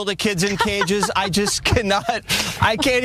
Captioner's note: laugh